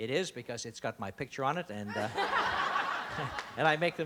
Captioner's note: laughter